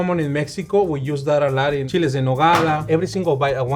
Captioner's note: speaking Spanish